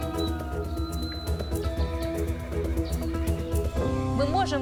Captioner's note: music intensifies; horses neighing